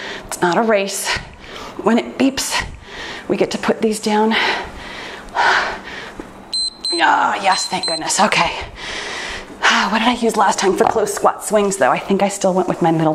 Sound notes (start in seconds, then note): 7.4 timer beeps